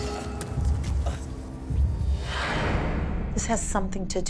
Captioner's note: exhales